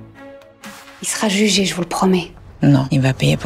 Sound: speaking in foreign language

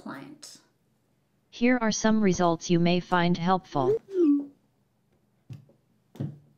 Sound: robot voice

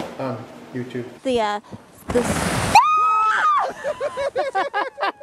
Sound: screaming and laughing

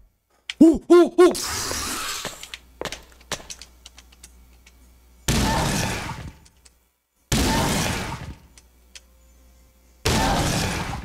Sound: audible panic

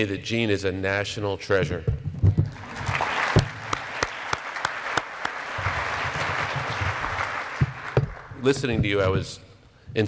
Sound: applause

